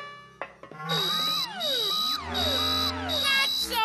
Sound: alarm bell sounds

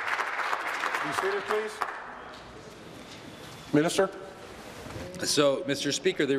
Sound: applause

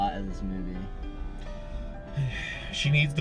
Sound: deep sigh

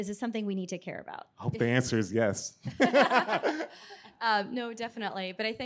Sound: laughs

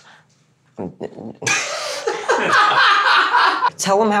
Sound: laughters

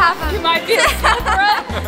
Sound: laughs

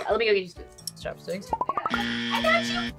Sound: buzzer

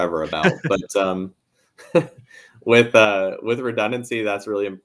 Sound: laughing

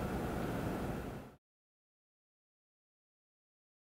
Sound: pause

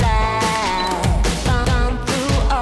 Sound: camera beeping and clicking

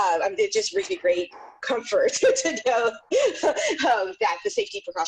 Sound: laughing

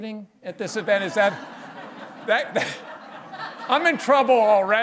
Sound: laughter

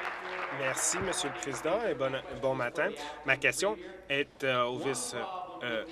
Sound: applause

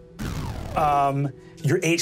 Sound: dramatic instrumental music; energy hums down

